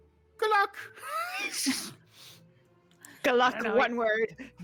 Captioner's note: laughs